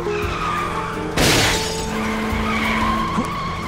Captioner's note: glass shatters; tires squealing